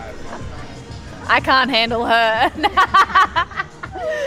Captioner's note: laughs